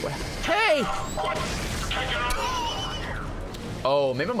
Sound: laughs

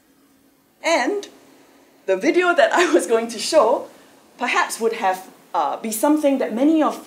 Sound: laugh

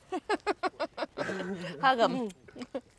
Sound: laughing

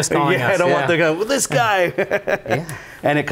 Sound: laughing

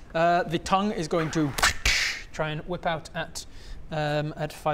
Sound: wrrch-dssch

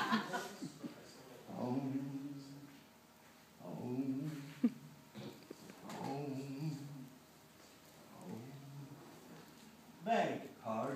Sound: laughter; hums

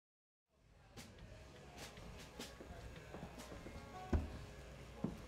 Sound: patrons murmuring

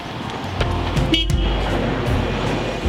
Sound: bus hoots horn

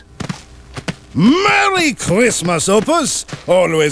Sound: french accent

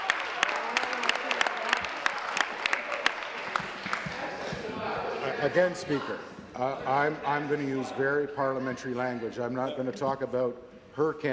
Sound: applause

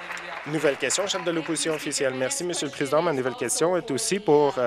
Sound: applause

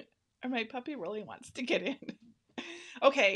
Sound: laughing

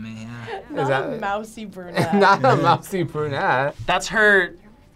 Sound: laughs

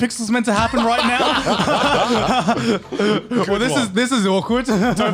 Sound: laughs

